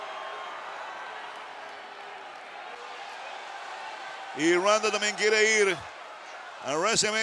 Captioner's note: applause